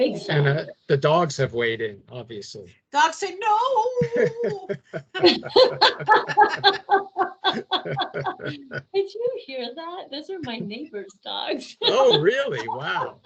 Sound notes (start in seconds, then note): 3.9 laughing; 11.8 laughing